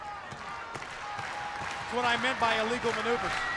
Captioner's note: crowd cheering